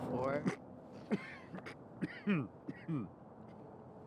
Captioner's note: Charles coughing